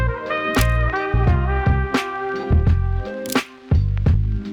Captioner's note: camera shutter clicks; camera shutter clicks